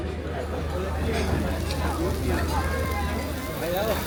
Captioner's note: sizzling